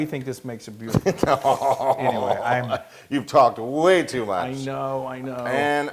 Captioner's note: laugh